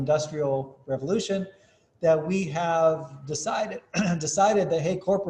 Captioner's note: cough